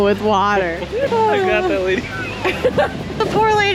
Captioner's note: laugh